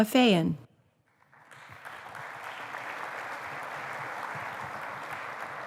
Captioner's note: applause